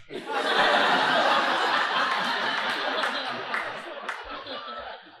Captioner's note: audience laughing